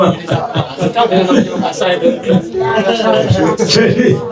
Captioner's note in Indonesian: tertawa